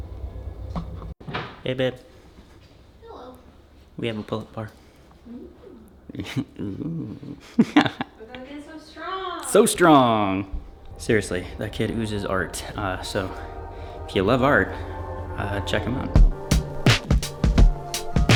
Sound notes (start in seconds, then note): 5.2 laughs